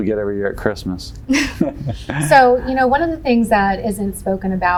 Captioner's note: chuckles